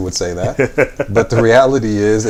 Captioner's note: laughs